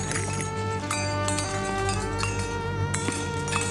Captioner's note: clattering